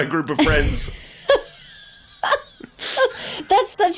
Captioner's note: laughing